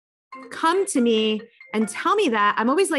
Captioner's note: cell phone rings